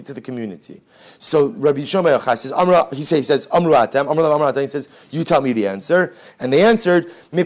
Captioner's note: Hebrew